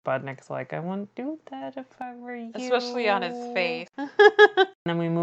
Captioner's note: laughs